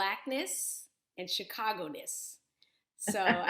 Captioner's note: chuckling